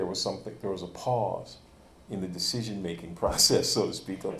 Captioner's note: chuckles